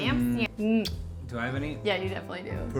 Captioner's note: lips smack